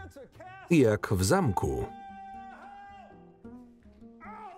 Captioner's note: yelling